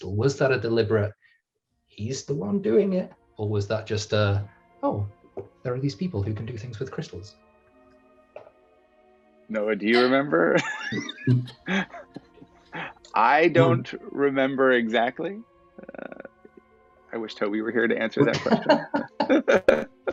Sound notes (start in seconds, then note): 9.9 laughs